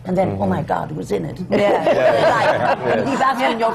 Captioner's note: laughter